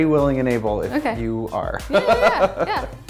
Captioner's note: laughs